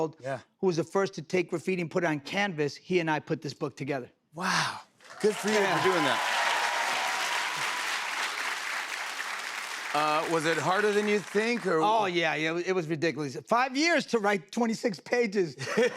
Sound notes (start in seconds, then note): 6.8 cheers and applause